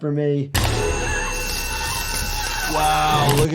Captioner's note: Olivia shrieks; laser roars